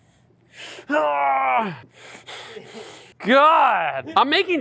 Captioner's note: grunting